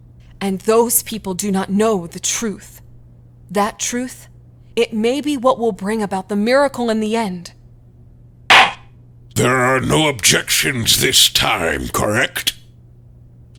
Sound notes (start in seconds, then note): 8.5 gavel slams!